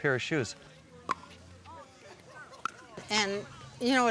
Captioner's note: hitting ball